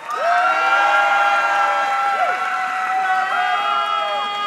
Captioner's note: audience cheering